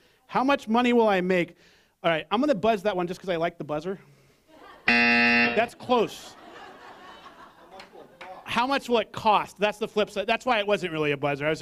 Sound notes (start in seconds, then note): 4.9 buzz